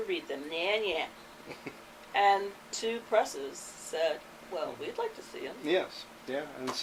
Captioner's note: chuckles